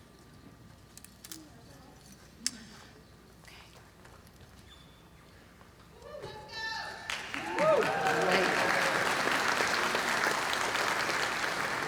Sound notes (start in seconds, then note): 7.0 applause; 7.0 cheer